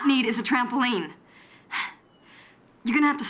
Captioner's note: sighs